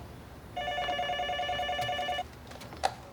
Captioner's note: phone ringing